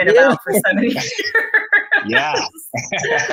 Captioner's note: laughing